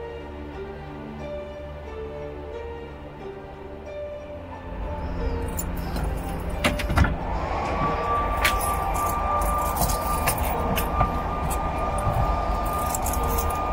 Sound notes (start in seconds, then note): 5.2 air whooshing; 6.2 keys jingling